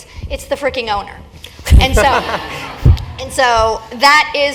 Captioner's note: laugh